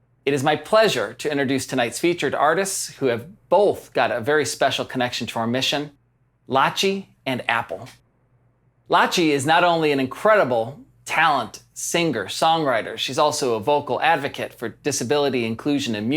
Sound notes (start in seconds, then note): none